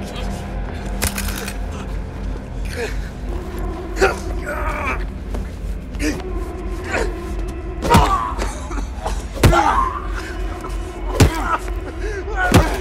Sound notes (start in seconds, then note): 1.0 gun clattering; 1.8 man grunting; 1.8 tense music